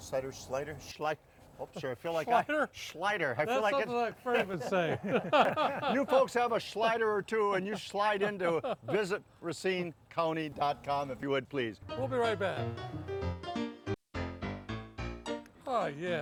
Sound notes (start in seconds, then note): 2.2 laughing; 3.4 laughs; 11.8 lighthearted piano music